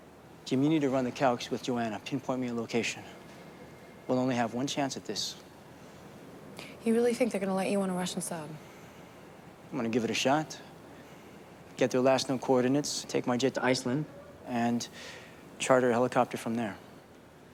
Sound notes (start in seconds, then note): none